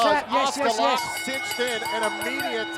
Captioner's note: bell rings